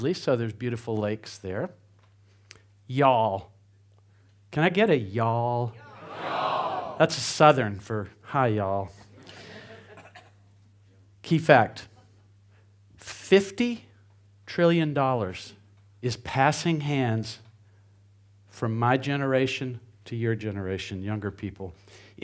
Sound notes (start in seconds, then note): 5.7 crowd; 9.0 crowd chuckles